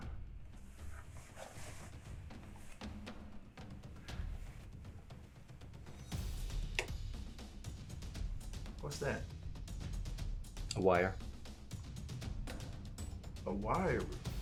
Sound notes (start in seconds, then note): 0.1 dramatic music continues; 6.5 metal clanking; 14.1 dramatic music continues